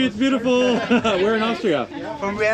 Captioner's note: laughs